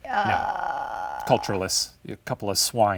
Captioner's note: stammering